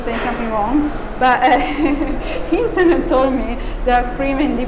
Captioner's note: laughing